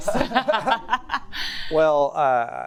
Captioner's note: audience laughs